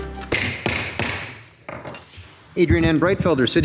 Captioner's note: gavel thudding